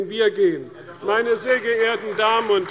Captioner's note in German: Beifall bei der CDU